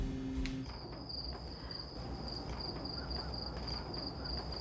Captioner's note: crickets chirping